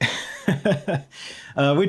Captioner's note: laughter